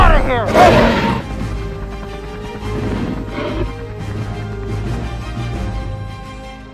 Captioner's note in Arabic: T-Rex يهدر ويلاحظ